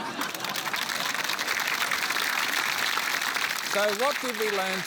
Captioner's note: applause